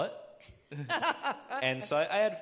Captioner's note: both laughing